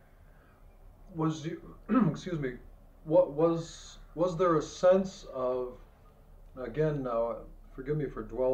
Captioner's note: clears throat